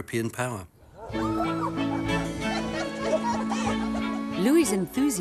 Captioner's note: bright music; women giggling